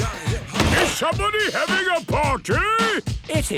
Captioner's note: shouts